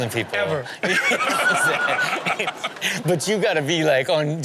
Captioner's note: everyone laughs